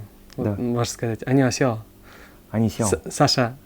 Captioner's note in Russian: на корейском